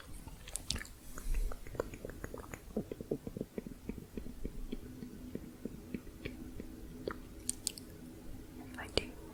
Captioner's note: muffled tongue clicking